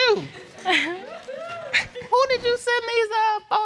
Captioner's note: chuckles